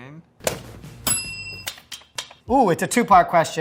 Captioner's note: bell dinging